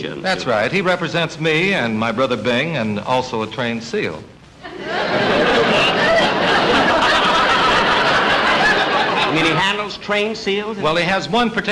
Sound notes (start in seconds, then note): 4.6 audience Laughing